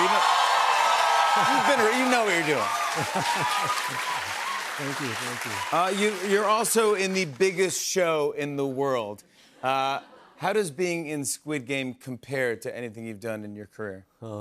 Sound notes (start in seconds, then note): 0.2 applause; 2.7 chuckles